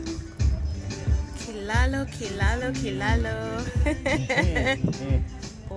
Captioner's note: laughter